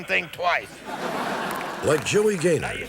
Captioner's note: laughter